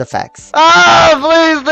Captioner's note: screams